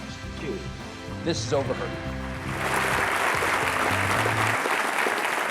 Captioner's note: audience applauding